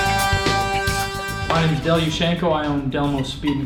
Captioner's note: voiceover